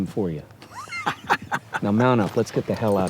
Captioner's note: laughs